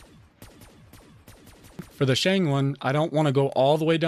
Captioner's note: bullet weapon firing